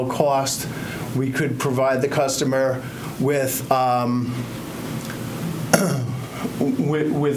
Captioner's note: clears throat